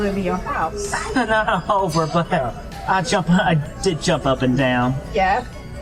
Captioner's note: laughter